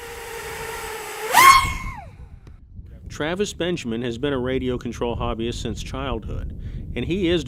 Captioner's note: whistling launch